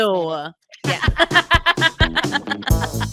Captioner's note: laughing; groovy music playing